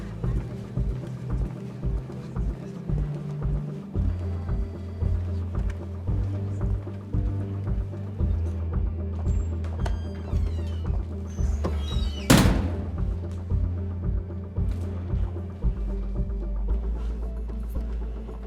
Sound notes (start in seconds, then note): 1.1 dramatic music continues; 11.9 dramatic music continues; 12.0 door slams